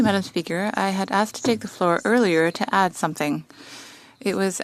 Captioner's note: speaking French